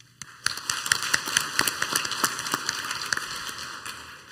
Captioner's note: clapping